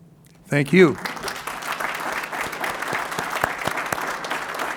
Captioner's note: applause